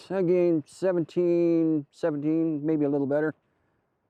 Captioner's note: none